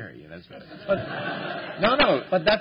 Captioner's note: laughter